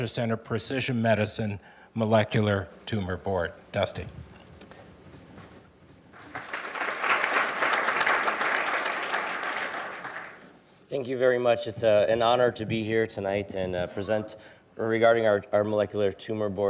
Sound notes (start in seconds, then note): 6.1 audience applauding